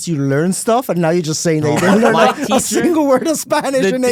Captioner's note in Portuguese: risos